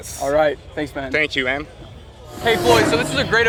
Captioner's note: car revs